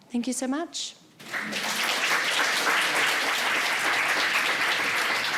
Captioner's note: all applauding